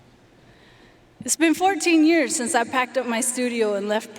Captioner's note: none